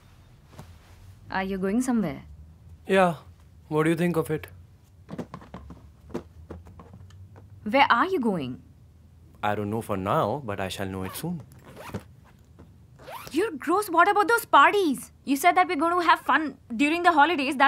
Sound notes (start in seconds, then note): 5.1 rattling sound of suitcase; 11.5 zipper being closed